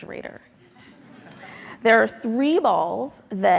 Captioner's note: audience laughing